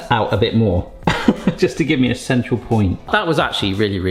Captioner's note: laughing